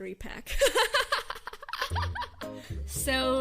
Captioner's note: laughs